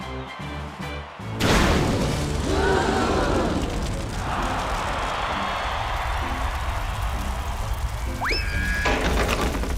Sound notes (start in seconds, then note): 2.4 crowd gasps; 5.4 cheering